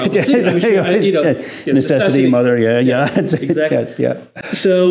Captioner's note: laughs